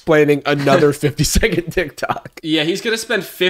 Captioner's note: laughs